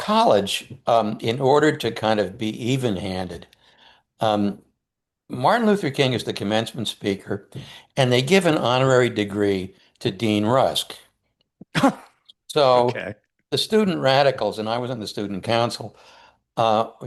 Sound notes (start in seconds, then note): 12.8 chuckles